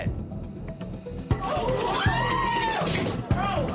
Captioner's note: screaming